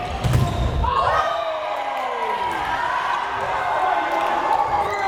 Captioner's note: crowd cheering